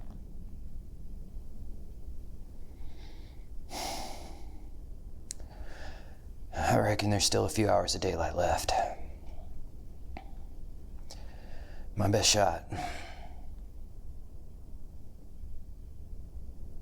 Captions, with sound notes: Fuck. (Pete sighs) I reckon there's still a few hours of daylight left. My best shot, (clears throat)